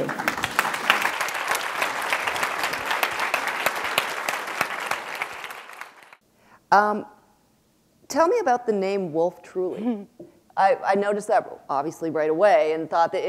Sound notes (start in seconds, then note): 4.2 applause